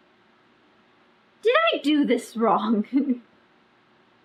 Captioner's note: laughs